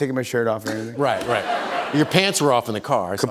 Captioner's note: laughter